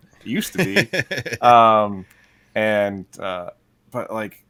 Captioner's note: interviewer laughs